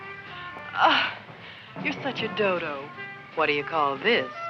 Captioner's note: sighs